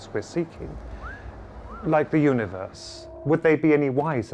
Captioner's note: person wolf whistles